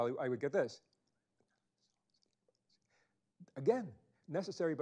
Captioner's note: whispering sounds